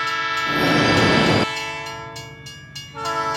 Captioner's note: train rumbling; bell dinging; train whistle blaring